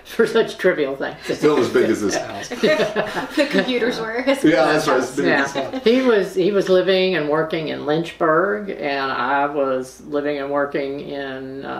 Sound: laughter

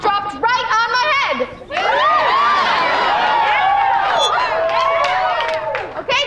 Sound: cheering

